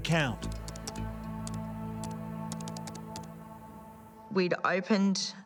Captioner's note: keyboard keys clicking